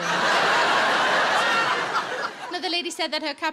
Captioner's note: audience laughs